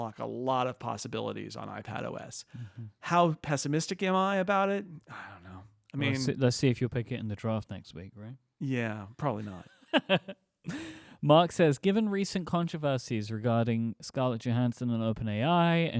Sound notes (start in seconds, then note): 9.9 laughing